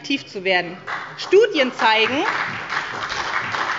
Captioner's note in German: Beifall bei der SPD